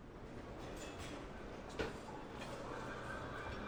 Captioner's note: indistinct chatter